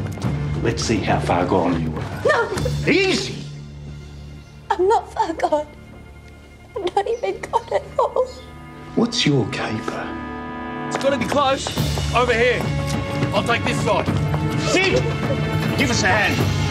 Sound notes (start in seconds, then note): 3.7 cries